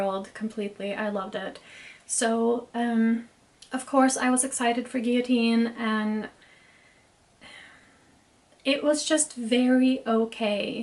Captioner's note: sigh